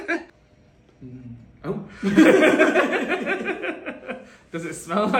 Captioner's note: laughing